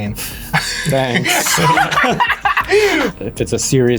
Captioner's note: everyone laughs